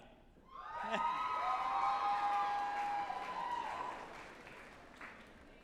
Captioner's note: group applauding and cheering